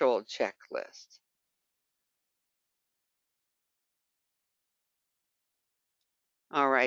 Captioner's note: 5 seconds pause